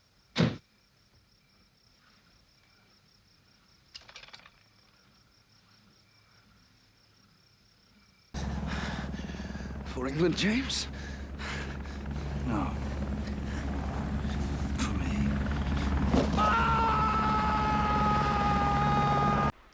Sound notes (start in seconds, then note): 0.4 silenced gunshot; 3.9 click; 8.4 heavy breathing, helicopter noise; 17.1 helicopter noise